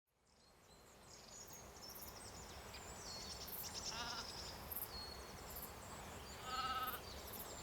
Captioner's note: birds tweeting; sheep bleating